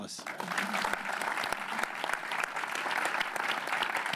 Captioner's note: applause